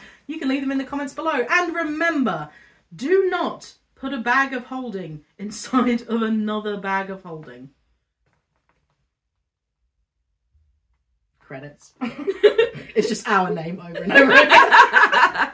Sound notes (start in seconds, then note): 13.9 laughter